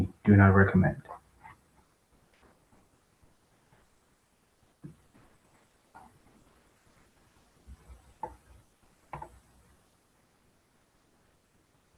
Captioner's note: pause